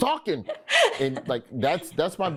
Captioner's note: Desi laughs